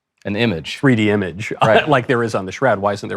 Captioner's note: laughs